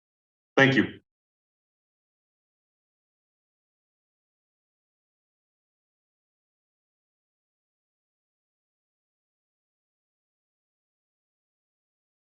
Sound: silence

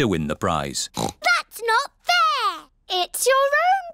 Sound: oinks

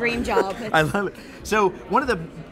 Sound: laughs

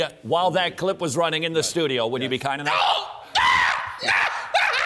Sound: screaming and laughing

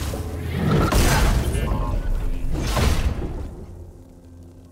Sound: beep-boop

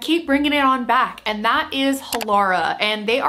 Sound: mouse clicks

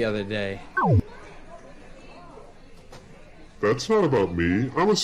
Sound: buzzes

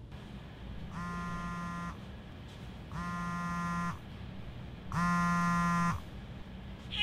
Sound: phone vibrates

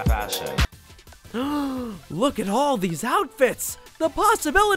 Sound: gasps

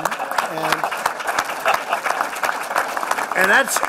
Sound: laughter and applause

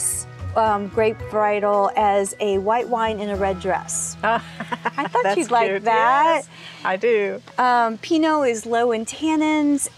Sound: laugh

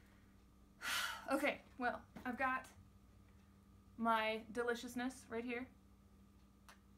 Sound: large sigh

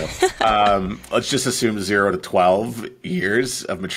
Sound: laughing

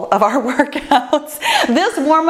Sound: laughs

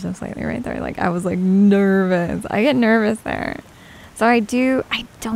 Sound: nervous

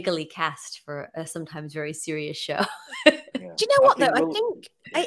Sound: laughs

